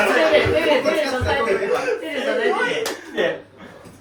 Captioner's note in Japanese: 笑い